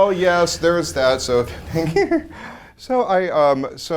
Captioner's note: giggles